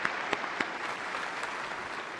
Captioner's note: applause